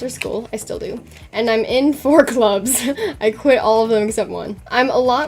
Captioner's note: laughs